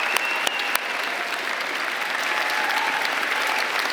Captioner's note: applause